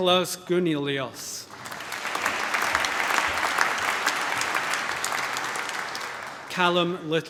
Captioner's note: applause